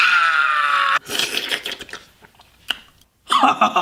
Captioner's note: slurp sounds; demon laugh